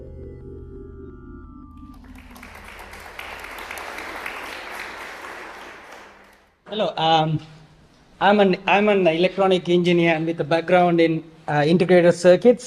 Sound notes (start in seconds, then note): 1.8 applause